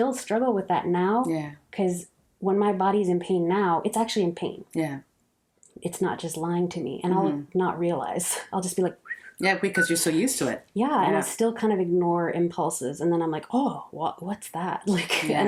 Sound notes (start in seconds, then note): 9.0 whistle sound